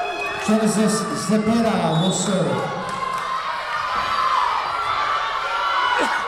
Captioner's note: whistle blowing